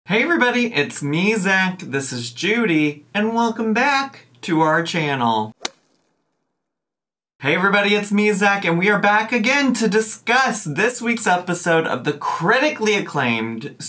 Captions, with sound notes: - Hey, everybody, it's me, Zach, this is Judy, and welcome back to our channel. (logo clicking) Hey, everybody, it's me, Zach, and we are back again to discuss this week's episode of the critically-acclaimed,